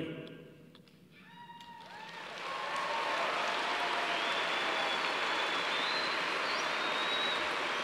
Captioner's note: cheers and applause